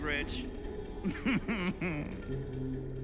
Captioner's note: laughs; chuckling